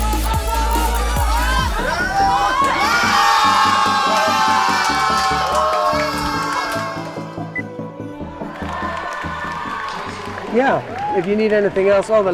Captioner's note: horn and Applause